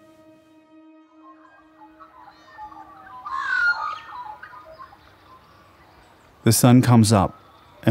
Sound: magpies warbling

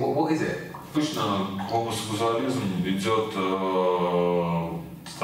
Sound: speaking in foreign language

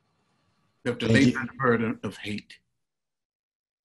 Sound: faintly speaking

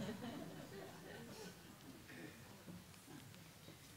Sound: laughter

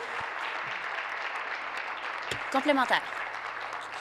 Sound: voice fading; applause

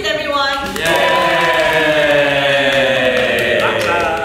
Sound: everyone cheers

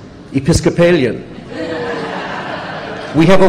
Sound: laughter

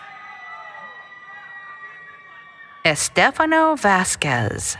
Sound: applause, Cheering

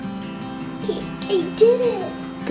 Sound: giggling

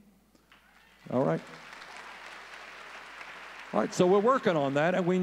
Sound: audience cheering

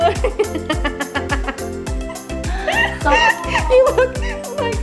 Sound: laughing

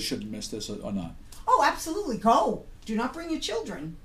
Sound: voiceover

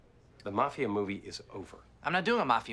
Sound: none

